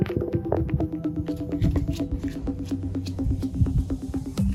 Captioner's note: footsteps